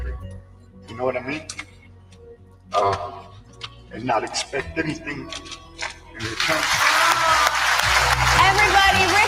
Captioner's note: applause